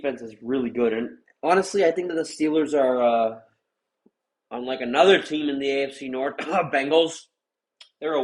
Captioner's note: coughs